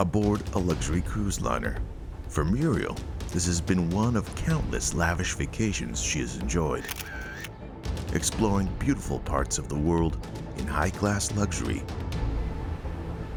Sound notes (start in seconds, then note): 6.8 camera shutter clicking